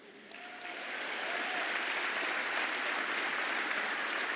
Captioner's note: applause